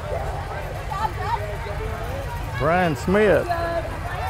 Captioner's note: revving and chattering continue